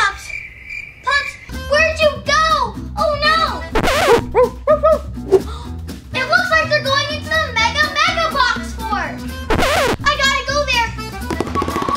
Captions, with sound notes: Pups, pups, where'd you go? Oh, no. (barking) It looks like they're going to the mega mega box fort. I gotta go there.